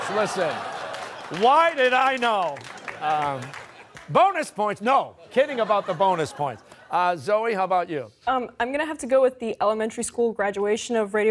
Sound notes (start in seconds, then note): 2.4 laughter; 3.4 applause